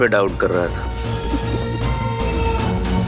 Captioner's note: chuckles